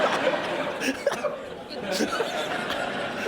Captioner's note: laughter